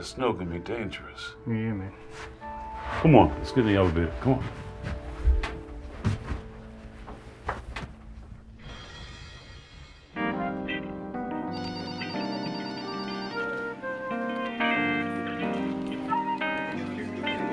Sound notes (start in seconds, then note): 11.4 phone ringing; 13.9 soft synthesizer music